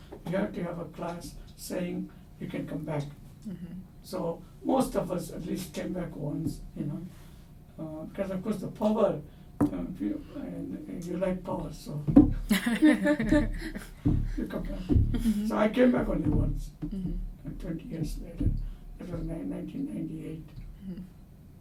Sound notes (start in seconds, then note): 12.5 all laugh